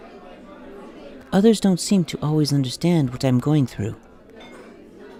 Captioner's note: sound of people in background; cafeteria sounds